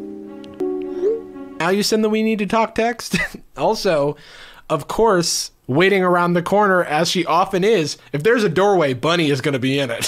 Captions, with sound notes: (text messenger sound) - Now you send the, we need to talk text? Also, of course, waiting around the corner as she often is, if there's a doorway, Bunny is going to be in it.